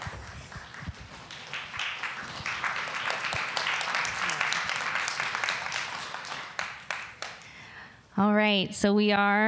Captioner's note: applause